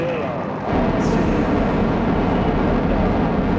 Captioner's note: engines roaring